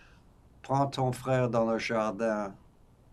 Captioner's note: french